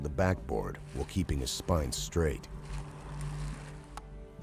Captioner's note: voiceover